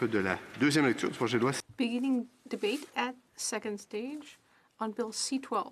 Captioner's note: speaking French